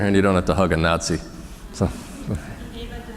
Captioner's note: laughter